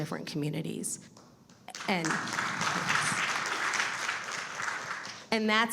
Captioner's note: audience applauding